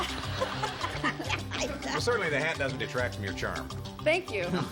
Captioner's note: laughter